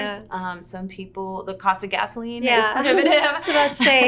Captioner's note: laughter